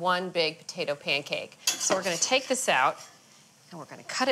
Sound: spatula scraping the pan

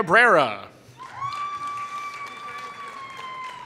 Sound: applause

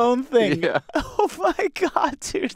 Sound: laughs

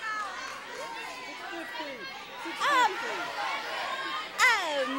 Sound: audience shouting

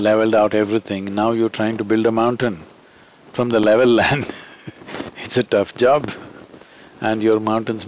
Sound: laughs

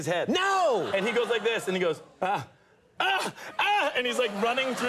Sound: screaming

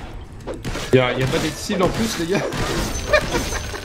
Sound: laughs

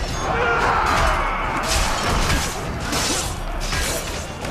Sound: fighting sounds

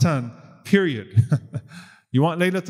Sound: laughs

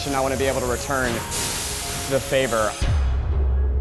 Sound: none

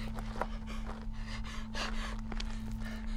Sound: panting

